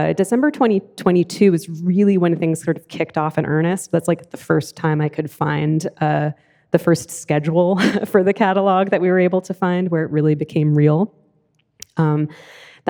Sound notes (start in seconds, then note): 7.7 laughs